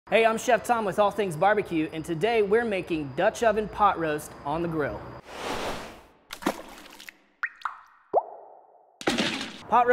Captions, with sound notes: - Hey, I'm Chef Tom with All Things Barbecue and today we're making dutch oven pot roast on the grill. (whooshing) (water splashing)